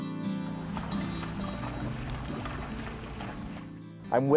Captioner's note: sound of splashing water